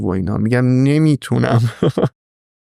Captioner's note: laughs